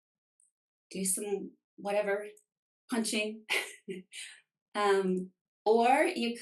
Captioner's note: chuckles